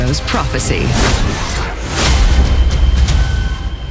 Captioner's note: slashing sound